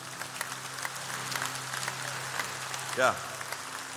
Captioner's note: applause